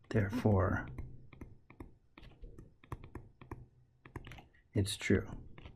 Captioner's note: tapping Sounds